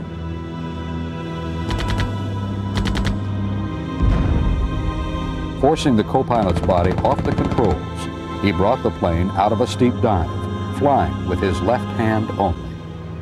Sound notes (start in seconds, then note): 2.8 gunfire blasting